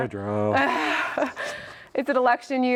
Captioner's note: laughs